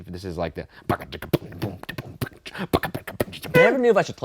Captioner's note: beat boxing